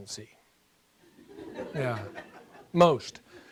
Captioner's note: laughing